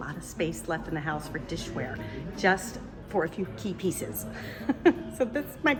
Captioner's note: laughs